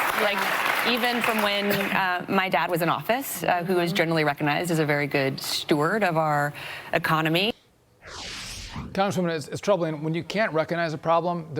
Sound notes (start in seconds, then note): 2.0 applause